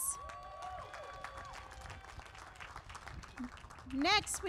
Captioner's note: applause